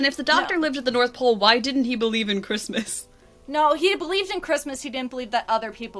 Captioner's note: laughs